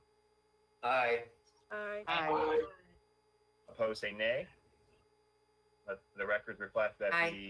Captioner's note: in Unison